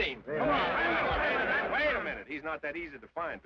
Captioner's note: men chatter